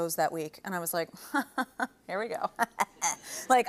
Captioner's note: chuckles